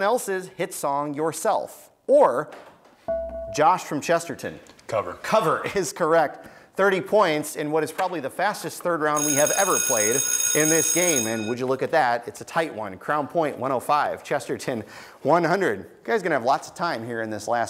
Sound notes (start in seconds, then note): 1.7 buzzer beeps; 9.1 schoolbell rings